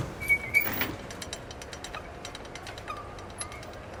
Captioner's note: wheels squeak